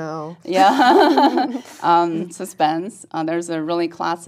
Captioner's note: laugh